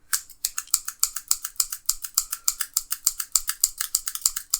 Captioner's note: shears clanking